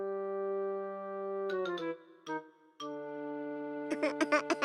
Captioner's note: crying